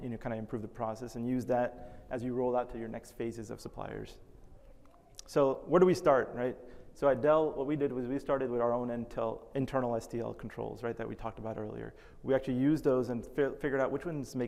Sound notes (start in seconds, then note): none